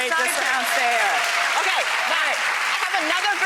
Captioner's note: applauding